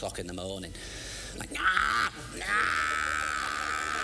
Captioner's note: imitates cats in heat